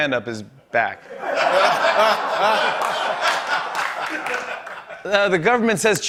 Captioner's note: laughter